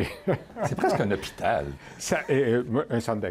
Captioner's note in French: rire